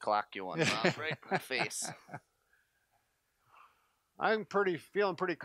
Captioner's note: laughing